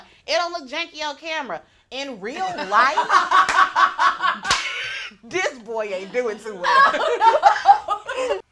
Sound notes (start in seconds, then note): 2.4 all laughing